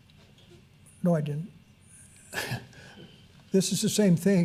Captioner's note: chuckles